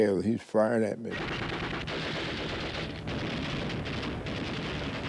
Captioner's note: automatic gunfire